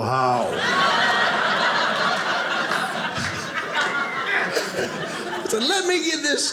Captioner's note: audience laughing